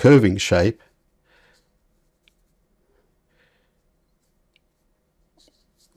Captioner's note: silence